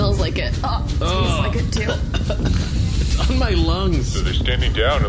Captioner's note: coughing